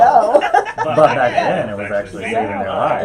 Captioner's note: laughs